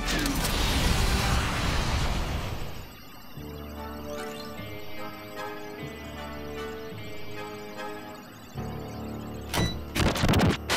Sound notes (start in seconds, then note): 2.4 machine computes, whirs